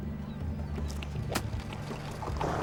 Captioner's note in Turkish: Kamçı sesi